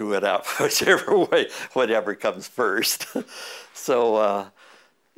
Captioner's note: chuckle